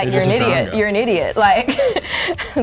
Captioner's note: laughs